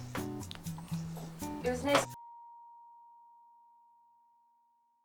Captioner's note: eerie silence/Your computer is not frozen